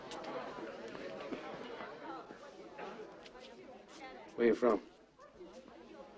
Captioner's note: none